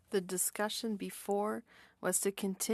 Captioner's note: speaking French